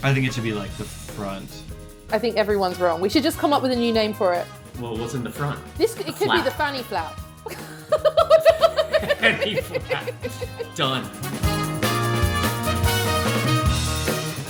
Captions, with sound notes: I think it should be the front. - I think everyone's wrong. We should just come up with a new name for it. - Well, what's in the front? The flap. - It could be the fanny flap. (laughs) - (laughs) The fanny flap! Done.